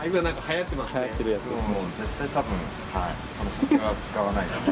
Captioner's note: laughs